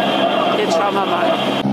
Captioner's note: radio message